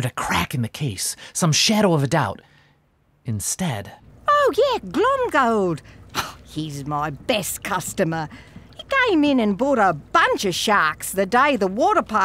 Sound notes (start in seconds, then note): 4.8 scoffs